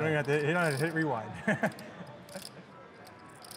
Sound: laughing

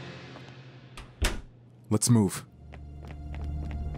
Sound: door closes; slow dramatic music; footsteps padding

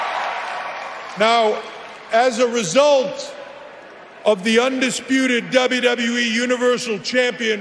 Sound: cheering

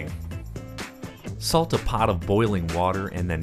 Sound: voiceover

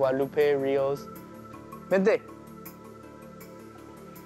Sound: speaks Spanish

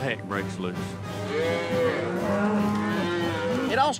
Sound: mooing

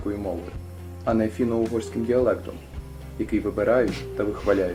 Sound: russian language

